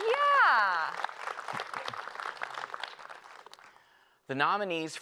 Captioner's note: applause